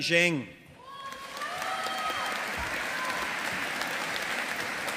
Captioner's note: audience applauding